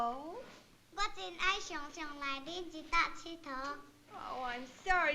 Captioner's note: non-english speech